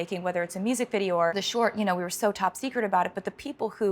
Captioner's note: none